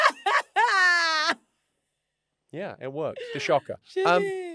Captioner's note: London laughs